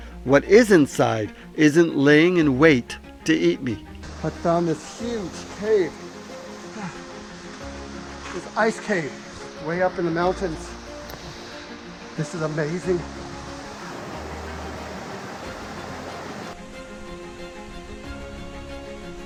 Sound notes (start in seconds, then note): 6.6 labored breathing; 14.3 gentle inspirational music